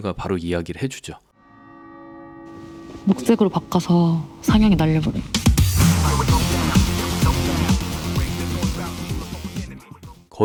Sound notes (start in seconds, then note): 2.4 bell sound; 5.8 exciting music